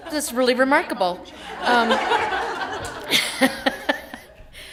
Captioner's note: laughter